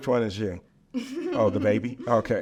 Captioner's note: laughs